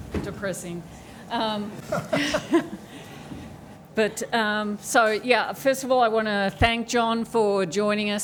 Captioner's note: chuckles